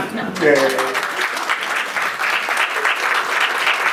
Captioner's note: clapping